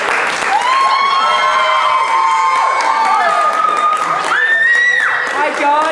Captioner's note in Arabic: الضيوف يهتفون ويصفقون